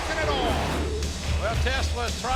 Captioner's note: screen whooshing